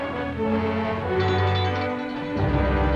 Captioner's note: bell ringing